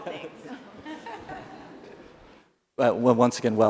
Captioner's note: laughs